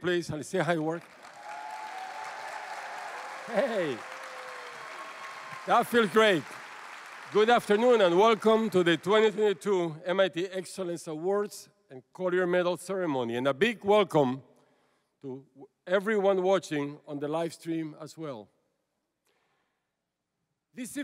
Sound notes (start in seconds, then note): 1.6 applause; 2.1 cheering